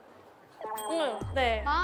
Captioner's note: talking